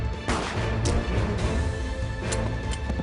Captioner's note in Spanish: Detonación de disparo